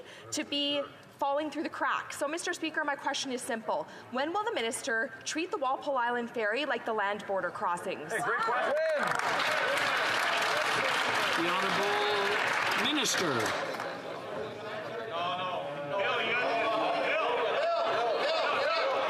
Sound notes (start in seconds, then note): 13.3 some Applause